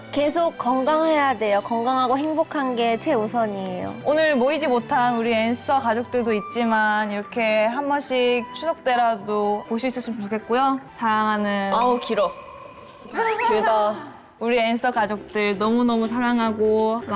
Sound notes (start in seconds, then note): 12.3 yaaaawn~